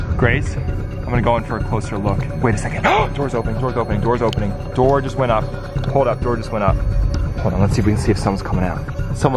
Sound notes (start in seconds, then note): 0.0 spy gear beeps; 2.9 gasps